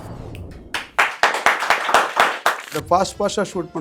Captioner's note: audience claps